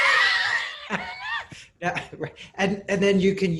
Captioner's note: laughing